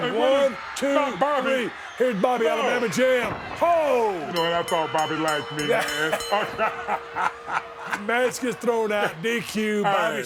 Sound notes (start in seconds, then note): 6.0 both laughing